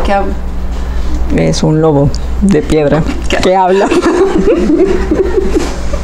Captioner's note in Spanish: Se ríen